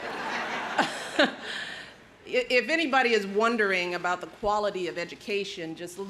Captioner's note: laughs